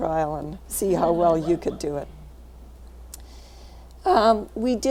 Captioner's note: laughing